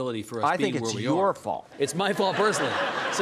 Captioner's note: audience laughing